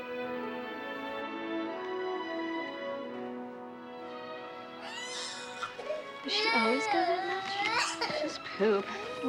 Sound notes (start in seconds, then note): 4.8 baby crying